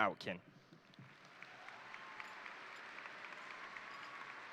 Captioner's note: crowd applauding